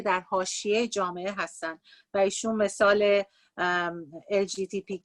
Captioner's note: speaking Farsi